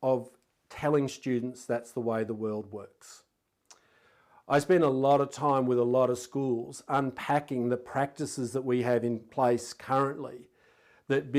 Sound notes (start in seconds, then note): none